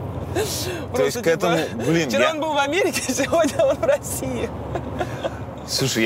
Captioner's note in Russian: смеётся; смеётся